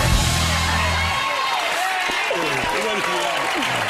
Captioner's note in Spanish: aplausos